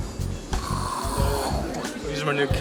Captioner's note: whooshing